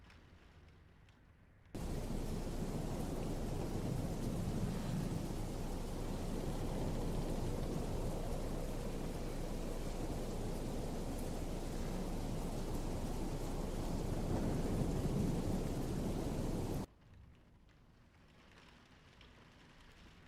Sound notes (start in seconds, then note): 1.8 wind whipping; 17.3 rain pattering